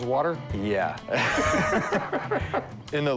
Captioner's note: laughter